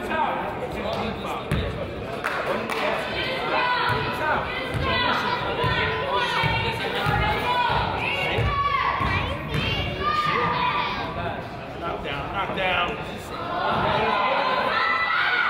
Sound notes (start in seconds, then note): 1.8 crowd chatters; 3.1 coaches yell